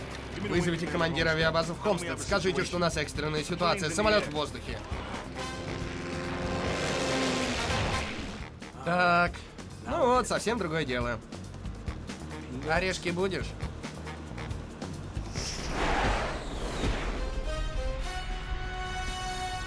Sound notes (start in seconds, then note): 5.5 engine roaring